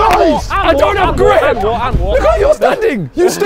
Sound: men shouting

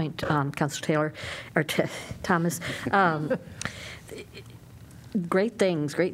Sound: laughter

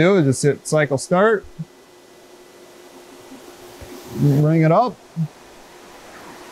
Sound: machine noise

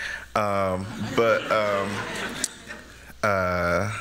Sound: laughter

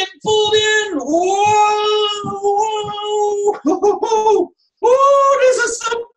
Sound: laughs

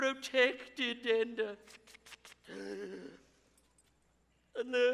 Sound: gasps

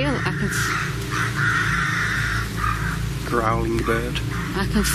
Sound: bird squawks

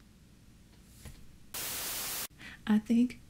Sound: static noise

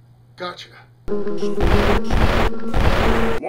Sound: explosions

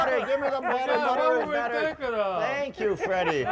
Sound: laughter

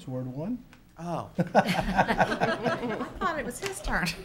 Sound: laughs

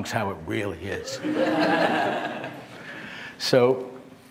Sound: laughter

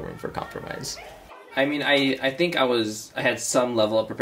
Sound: kids talking

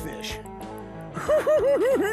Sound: giggling

